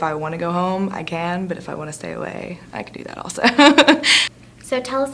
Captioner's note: laughs